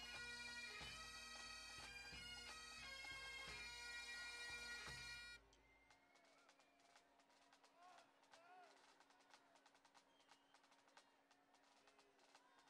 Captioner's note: applause